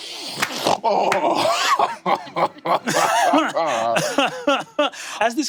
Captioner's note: Lou snorts deeply and laughs confidently